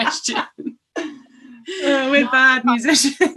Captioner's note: laughter